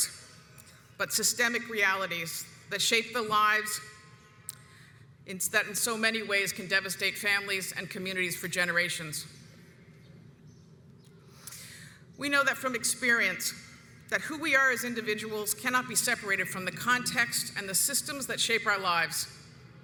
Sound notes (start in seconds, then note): none